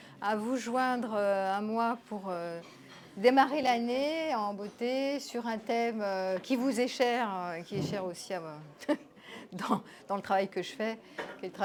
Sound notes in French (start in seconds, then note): 8.8 rires